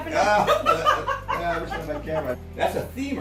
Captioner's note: laughs